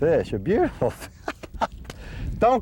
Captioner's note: laughter